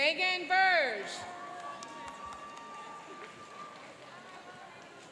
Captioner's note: cheering and applauding